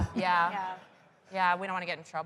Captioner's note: laughs